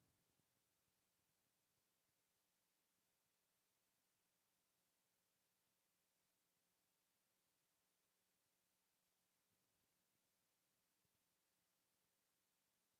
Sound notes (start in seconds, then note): none